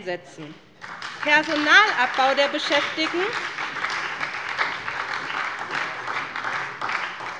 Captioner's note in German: Beifall bei der SPD